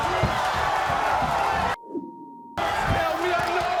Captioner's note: crowd roaring